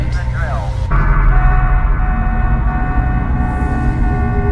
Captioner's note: alarms blaring